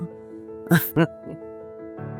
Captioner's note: chuckles; slow music